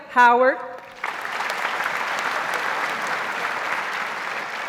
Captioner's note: audience applauds